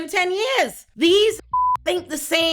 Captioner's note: beep